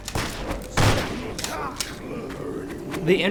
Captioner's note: gun whirs